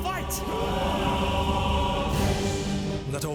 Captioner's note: all shouting